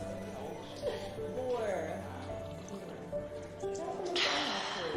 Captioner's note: slurps